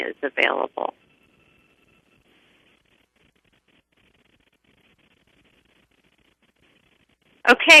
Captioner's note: pause